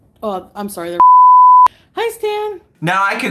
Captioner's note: beep